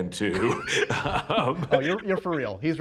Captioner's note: laughter